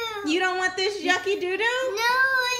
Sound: voiceover

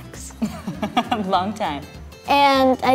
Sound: laughs

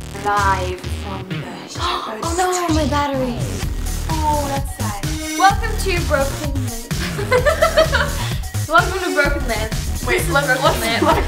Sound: gasp

